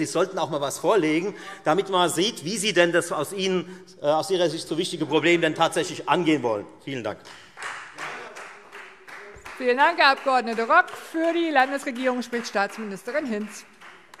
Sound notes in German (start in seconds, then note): 7.2 Beifall Freie Demokraten